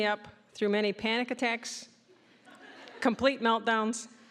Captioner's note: audience laughing